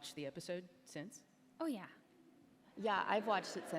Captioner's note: laughter